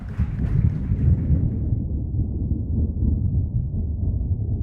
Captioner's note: thundering